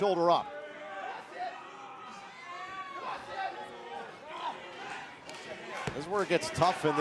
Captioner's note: crowd cheering